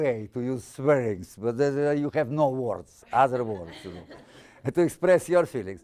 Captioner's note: audience laughing